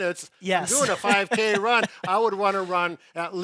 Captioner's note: laughs